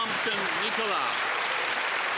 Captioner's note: some Applause